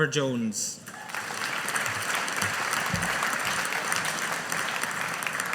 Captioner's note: audience applauding